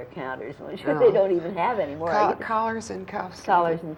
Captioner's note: laughs